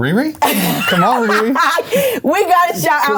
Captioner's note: laughing